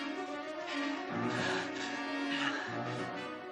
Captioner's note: panting